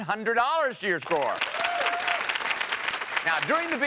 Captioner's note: audience cheers